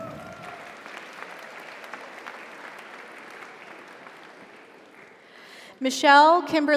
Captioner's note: audience cheers; audience applauds